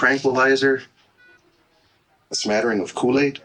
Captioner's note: heart monitor